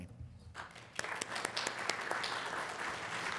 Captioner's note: applause